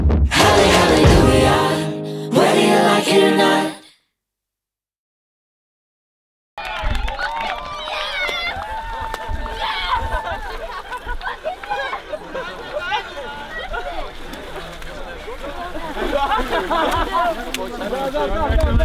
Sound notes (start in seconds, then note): 6.6 group cheers; 12.5 group laughs